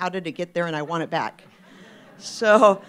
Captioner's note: laughter